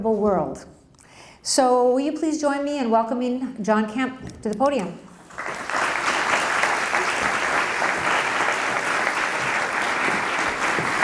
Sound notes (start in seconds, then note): 5.2 applause